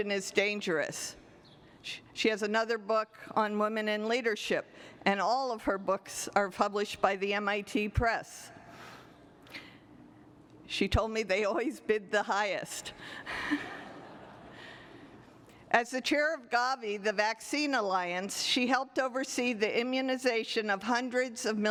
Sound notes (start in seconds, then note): 13.2 laughter